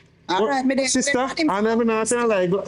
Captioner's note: speaking in foreign language